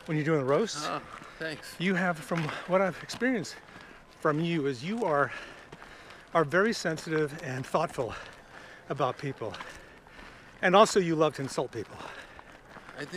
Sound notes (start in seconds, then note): none